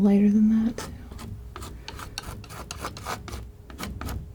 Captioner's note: scratching